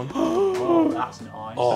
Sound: gasping

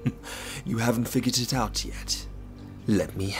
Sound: laughing

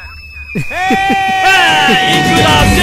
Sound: hooting

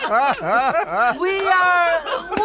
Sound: laughter

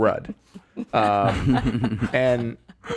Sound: laughing

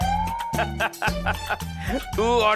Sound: laughing

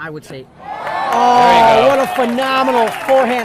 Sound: audience applauding and cheering

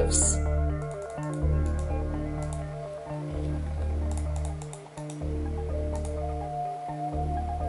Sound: mouse clicking

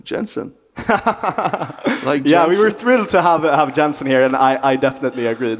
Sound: laughs

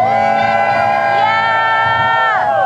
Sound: whooping

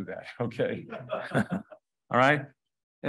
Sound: crowd member laughs

